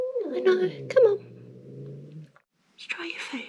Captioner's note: growling